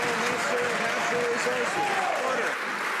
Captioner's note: some Applause